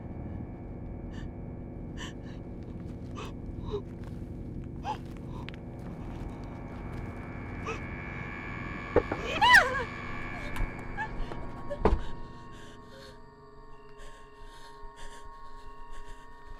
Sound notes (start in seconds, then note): 1.9 person breathing; 9.2 person screaming